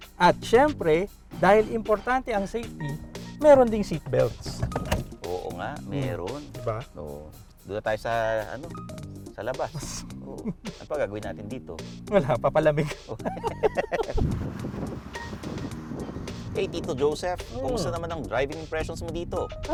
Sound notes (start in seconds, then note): 12.7 both laughing